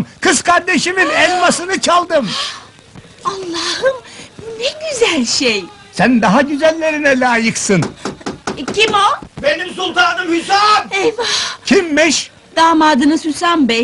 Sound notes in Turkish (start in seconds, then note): 7.7 kapi çalinir